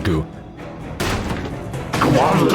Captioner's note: banging sfx